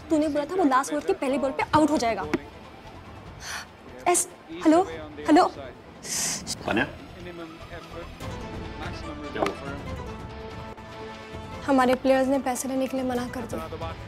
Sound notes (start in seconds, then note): 3.7 gasps; 6.2 Tanya gasps; 7.4 TV playing